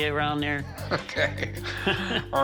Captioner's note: laughter